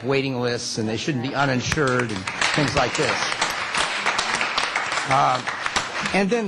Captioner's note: applause